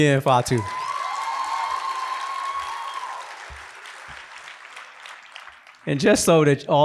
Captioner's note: applause